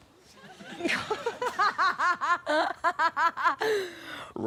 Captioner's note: laughs